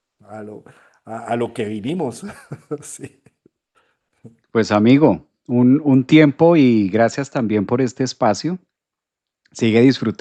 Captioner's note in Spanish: risas